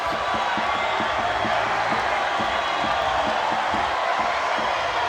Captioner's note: crowd cheering loudly